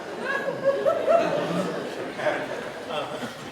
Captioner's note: laughter